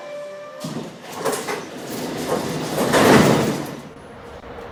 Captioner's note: opening doors